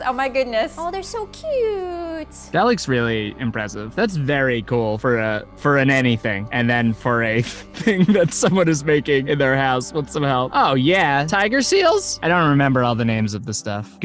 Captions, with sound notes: Oh my goodness. Oh, they're so cute. - That looks really impressive. That's very cool for an anything and then for a- (laughing) A thing that someone is making in their house, with some help. Oh yeah, tiger seals. I don't remember all the names of the stuff.